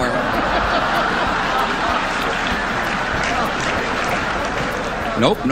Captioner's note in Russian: аудиенция смеётся